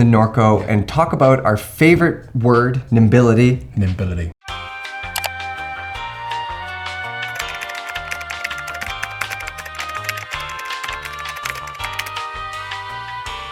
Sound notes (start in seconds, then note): 4.7 mellow music; 7.3 keyboard clicking